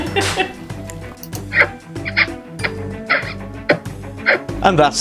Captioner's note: giggle; exaggerated kissing noises